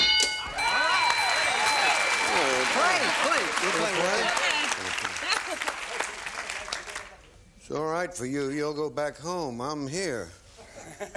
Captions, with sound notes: Football? (bell) (applause) -We're going to play. -You're going to play? It's all right for you, you'll go back home.